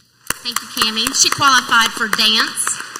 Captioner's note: clapping